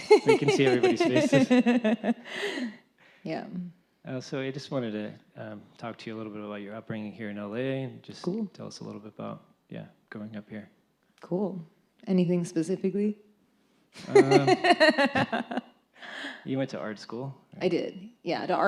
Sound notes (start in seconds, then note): 14.1 laughs